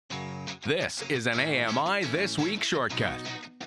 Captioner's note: voiceover